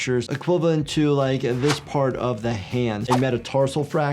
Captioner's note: cloth whipping; wind whipping